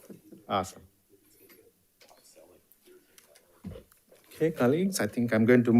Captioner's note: participants chattering off microphone